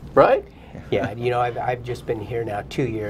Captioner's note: laughter